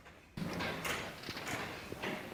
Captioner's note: doors open